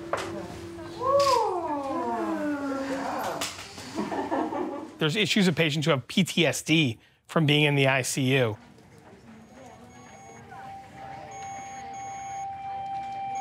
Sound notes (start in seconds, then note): 3.7 laughs; 8.8 monitors beeping